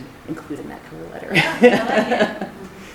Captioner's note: laughs